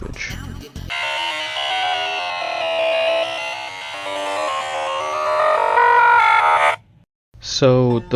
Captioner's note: Gaster noises